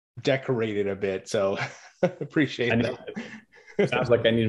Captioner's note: chuckles